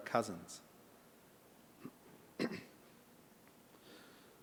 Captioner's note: clears throat